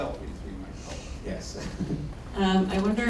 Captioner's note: laughs